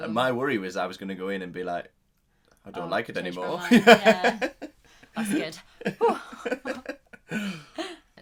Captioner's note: laughing